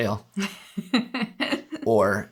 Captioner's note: laughter